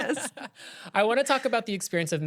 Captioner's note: laughter